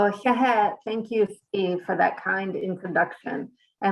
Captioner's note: Speaking Navajo